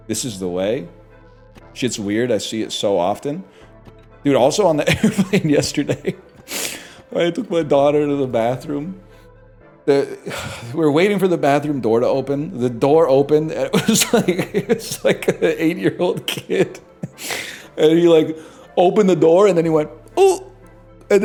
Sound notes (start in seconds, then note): 4.8 laughs; 10.0 sighs; 13.7 laughing